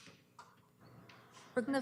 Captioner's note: audio drop